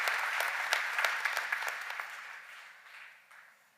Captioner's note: cheers and applause